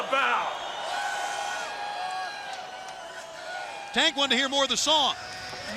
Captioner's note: crowd cheering